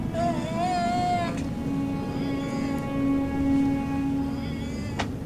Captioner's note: groaning